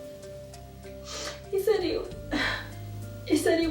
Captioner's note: sighs